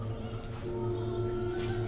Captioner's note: TV sound